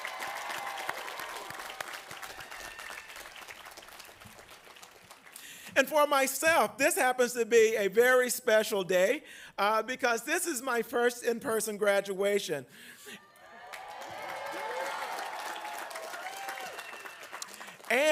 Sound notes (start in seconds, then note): 4.0 applause; 15.9 applause